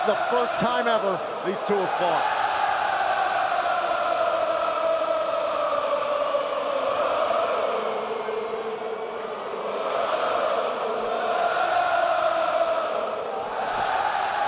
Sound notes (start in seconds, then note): 3.3 crowd cheering